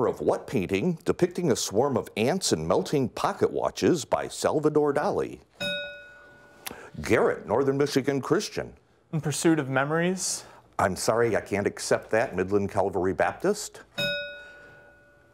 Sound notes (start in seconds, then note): 5.6 bell rings; 13.9 bell rings